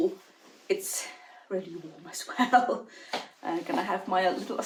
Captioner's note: laughs